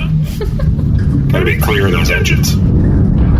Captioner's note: snickers